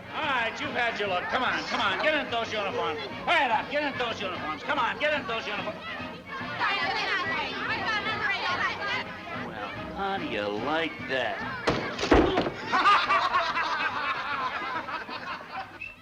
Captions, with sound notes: All right, you've had your look. Come on. Come on. Get into those uniforms. Hurry it up. Get into those uniforms. Come on. Get into those uniforms. Well, how do you like that. [laughter]